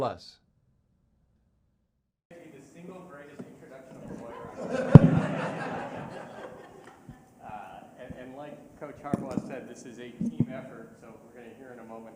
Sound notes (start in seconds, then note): 8.2 laughter